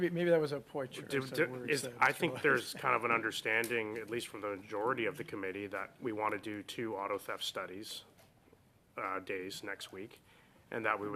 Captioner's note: laughter